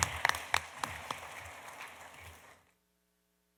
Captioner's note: applause